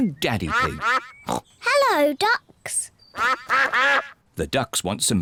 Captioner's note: snorts; ducks quack